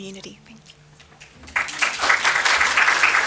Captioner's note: applause